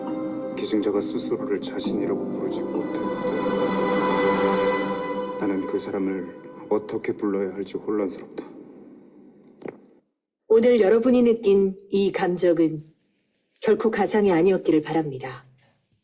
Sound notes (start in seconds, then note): 0.0 intense music; 0.8 speaking in foreign language; 10.5 speaking in foreign language